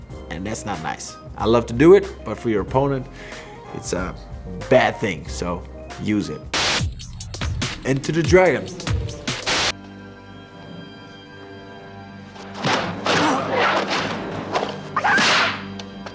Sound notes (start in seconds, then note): 6.4 upbeat music; 6.5 static crackles; 8.7 static crackles; 9.4 ominous music